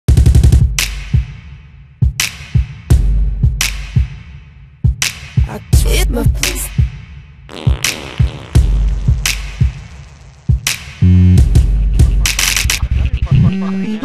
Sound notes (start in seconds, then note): 7.5 farting sfx; 11.0 very quiet laughter